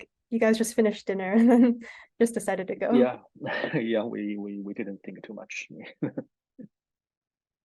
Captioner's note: laughs